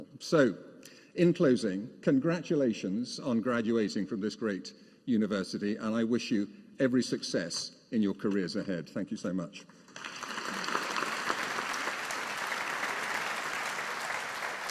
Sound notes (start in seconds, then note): 9.9 audience applauding